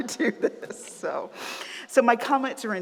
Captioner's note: laughs